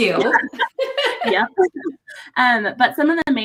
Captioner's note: both laugh